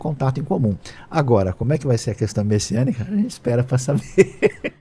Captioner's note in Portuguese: risadas